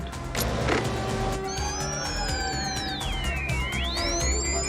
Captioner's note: click; high-pitched buzzing; beeping